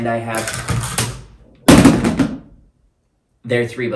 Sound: items falling over off camera

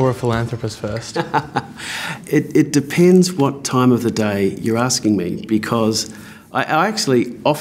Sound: laughs

